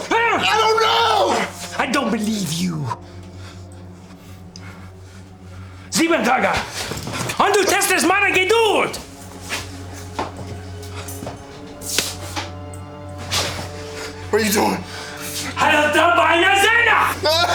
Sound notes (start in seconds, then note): 6.0 officer speaking German; 10.3 ominous music; 15.7 officer speaking German; 16.0 prisoner screaming